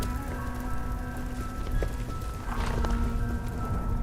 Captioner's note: cape flapping in wind